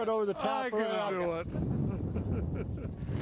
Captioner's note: chuckling